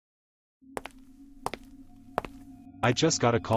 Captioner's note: footsteps